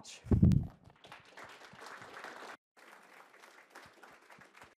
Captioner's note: applause